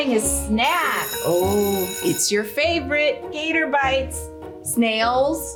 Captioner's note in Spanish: sonido de campana